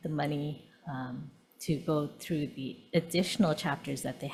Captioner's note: none